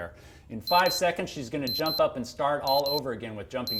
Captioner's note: beep sound